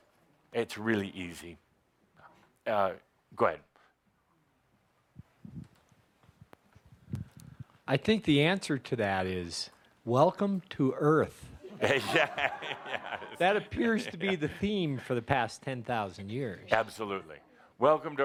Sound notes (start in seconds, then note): 11.6 laughter; 11.7 laughing